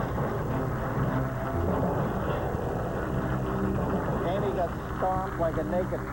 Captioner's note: applause